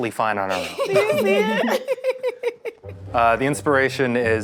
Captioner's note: giggling